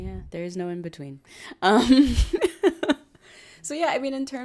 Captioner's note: laughs